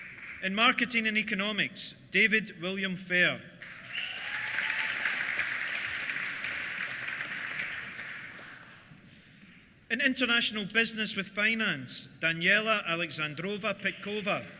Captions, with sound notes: In Marketing and Economics, David William Fair. (CHEERS) (APPLAUSE) In International Business with Finance, Daniela Aleksandrova Petkova.